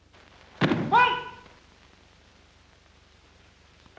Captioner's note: shouts commands